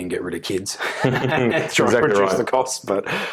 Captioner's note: chuckles